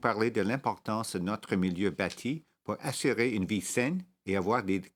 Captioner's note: speaking French